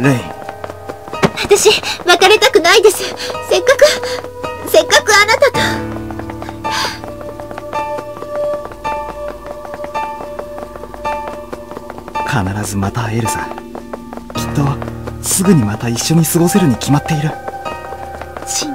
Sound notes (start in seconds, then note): 0.0 rain; 1.7 rain